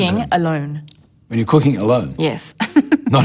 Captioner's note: laughs